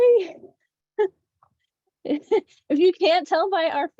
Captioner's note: laughs